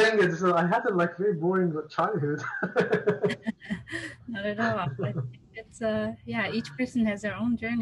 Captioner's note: both: Laugh